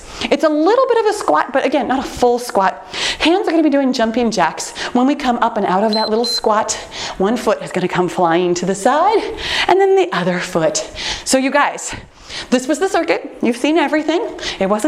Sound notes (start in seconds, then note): 5.8 timer beeps